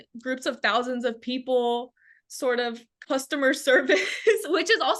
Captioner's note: laughs